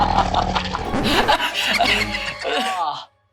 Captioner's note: coughing